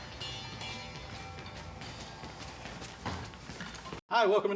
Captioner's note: clock rattling